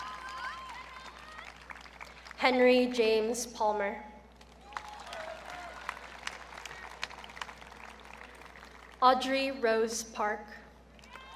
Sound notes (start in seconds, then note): 4.4 audience clapping; 11.0 audience cheering